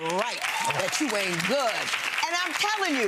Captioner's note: clapping